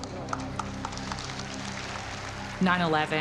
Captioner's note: audience claps